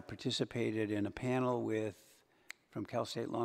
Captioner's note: snaps fingers